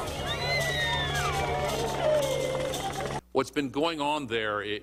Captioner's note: çocuklar çığlık atıyor ve ağlıyor